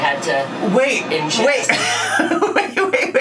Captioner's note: laughs